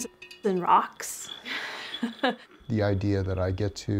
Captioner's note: laughs